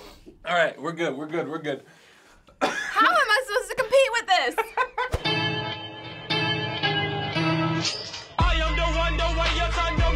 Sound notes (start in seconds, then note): 2.5 coughing; 4.5 cracking up